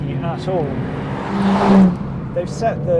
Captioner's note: car zooming